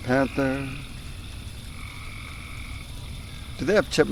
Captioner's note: crickets